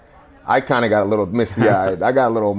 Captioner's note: laughing